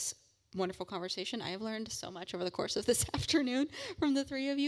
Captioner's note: laugh